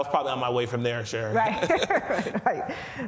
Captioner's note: both laughing